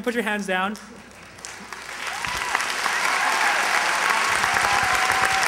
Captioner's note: applause